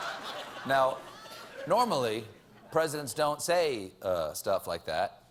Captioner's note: laughter